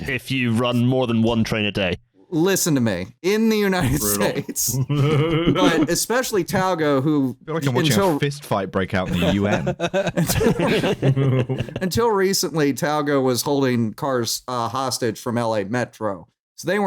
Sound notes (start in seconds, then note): 3.8 laughs; 9.0 laughter